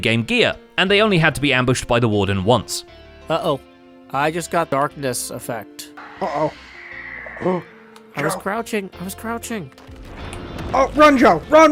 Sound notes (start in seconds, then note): 6.0 shrieker shrieks; 8.4 whispering